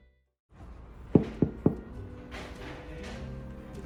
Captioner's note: knock knock knock